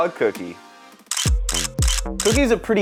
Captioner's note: camera clicks